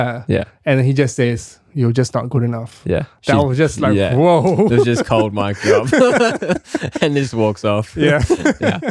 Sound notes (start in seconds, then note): 3.8 laughing